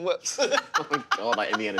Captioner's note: laughing